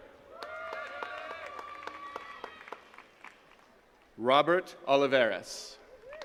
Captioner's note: attendees cheering and clapping